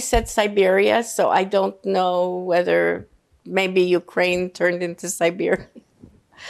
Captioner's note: laughing